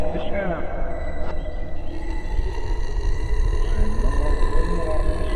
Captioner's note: ominous chant returns; growling